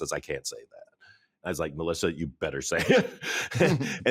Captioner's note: chuckles